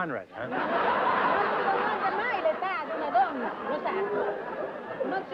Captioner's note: laughter; speaking italian